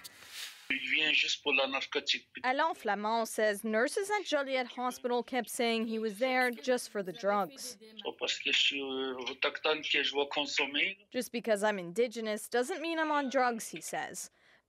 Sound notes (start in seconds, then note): 5.0 speaking Foreign Language